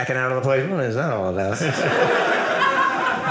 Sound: audience laughing

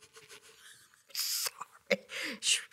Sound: laughing

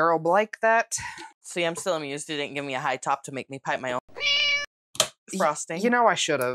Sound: meow

